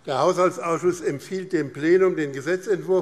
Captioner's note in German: none